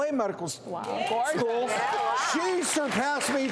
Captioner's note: audience clapping